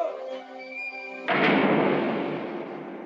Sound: door closes

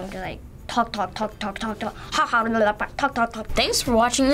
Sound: speaks gibberish

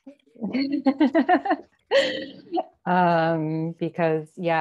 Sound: panelists laughing

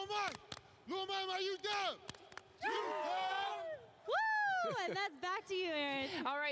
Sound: chanting

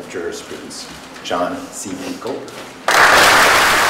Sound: applause

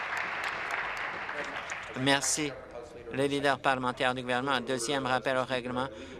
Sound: applause

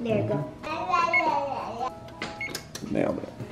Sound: babbling; oven timer beeping

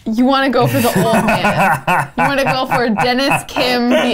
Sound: laughs maniacally

